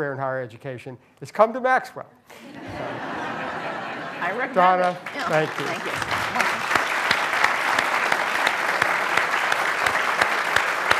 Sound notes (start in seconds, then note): 2.3 laughter; 6.8 applause